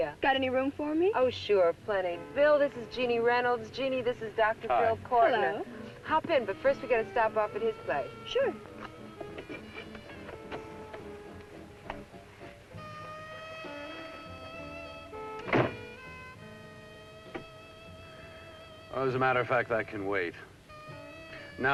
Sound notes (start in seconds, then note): 11.5 burlesque music; 15.3 car door closes; 17.0 burlesque music